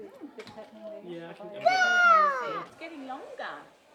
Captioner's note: hollers